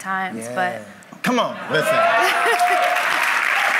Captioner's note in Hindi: वाहवाही